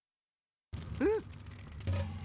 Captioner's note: gasps